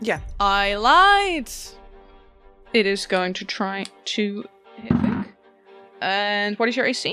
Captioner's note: dice thunks